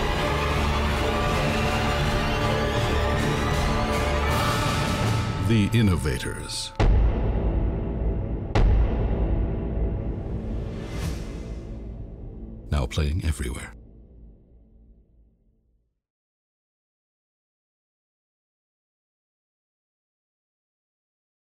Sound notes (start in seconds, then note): 0.2 epic music continues; 7.4 boom